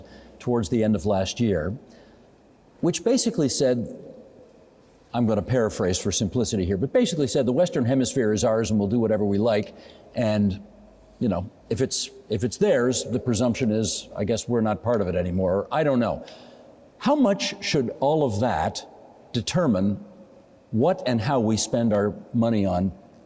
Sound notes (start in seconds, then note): none